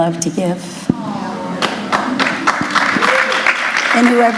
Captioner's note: applause